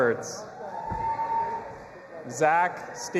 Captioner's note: audience applauding and cheering